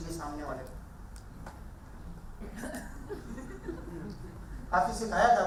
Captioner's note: audience laughing